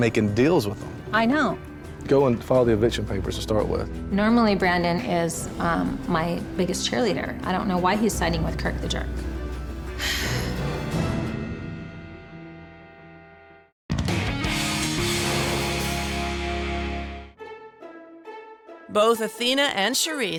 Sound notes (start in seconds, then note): 10.0 sigh